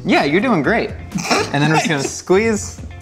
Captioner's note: laughs